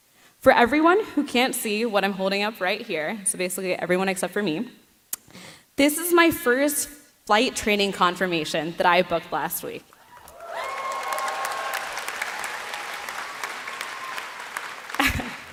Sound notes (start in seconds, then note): 9.9 applause